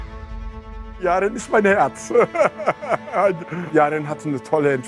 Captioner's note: laughs